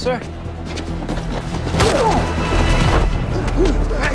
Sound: both grunt

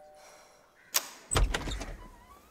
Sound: door opens

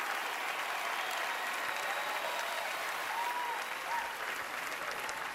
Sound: cheering, applause

